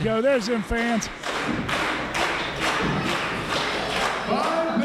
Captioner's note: crowd clapping